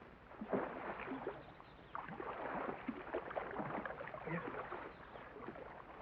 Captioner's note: water splashes